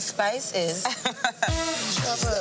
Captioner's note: woman laughing